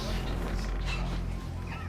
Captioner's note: Jackie laughs